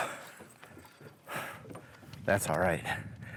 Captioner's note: breathing heavily